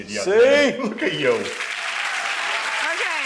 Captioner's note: laughs; audience applauding